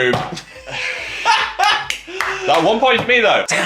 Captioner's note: laughs; clapping